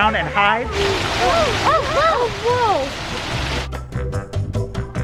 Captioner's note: waterfall rushing; kids exclaiming; bouncy music continues